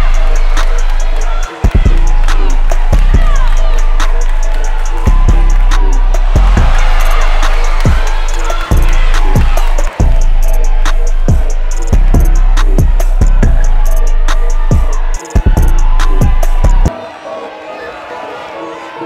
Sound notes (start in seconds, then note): 6.3 crowd cheering; 7.9 trap music